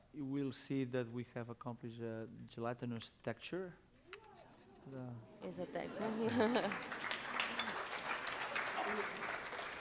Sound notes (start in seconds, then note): 5.6 non-english speech; 5.9 applause